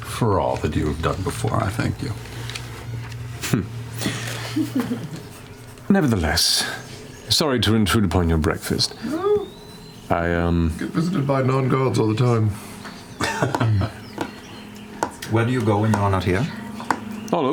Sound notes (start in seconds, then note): 3.4 chuckles; 13.0 chuckling